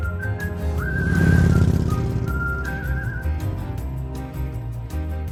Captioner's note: motorbike roaring